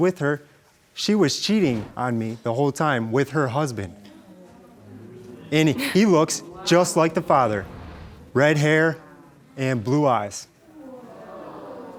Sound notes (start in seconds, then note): 3.8 audience murmuring; 10.9 audience jeering